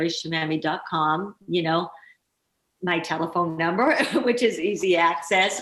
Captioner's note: laughing